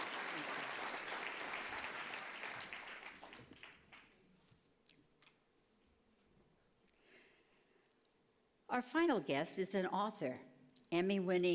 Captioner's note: applause